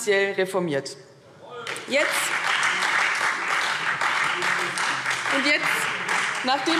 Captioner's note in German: Beifall Freie Demokraten